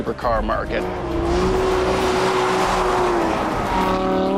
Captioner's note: car engine roars